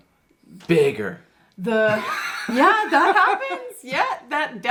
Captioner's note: laughs